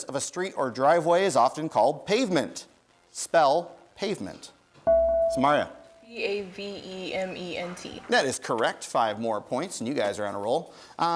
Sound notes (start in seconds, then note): 4.8 bell rings